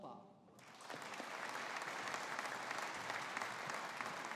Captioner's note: audience applauding